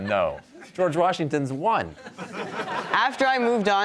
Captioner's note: audience laughs